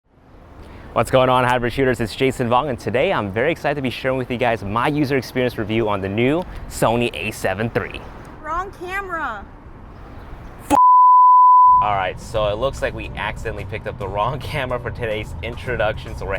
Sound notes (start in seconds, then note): 10.9 standby buzzing